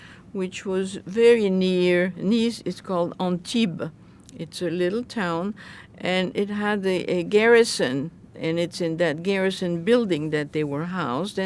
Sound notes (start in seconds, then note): none